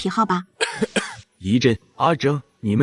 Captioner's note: cough cough